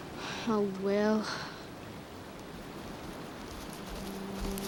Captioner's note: sighs